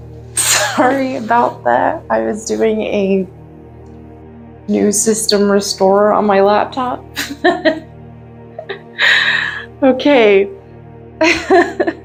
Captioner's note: laughs